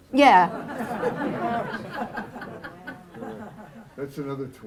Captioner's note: laughter